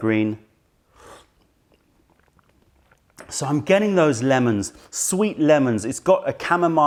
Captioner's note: sips tisane